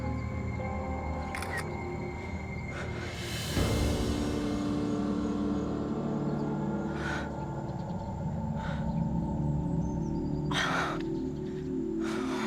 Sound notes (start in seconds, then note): 0.6 camera shutter; 10.5 gasps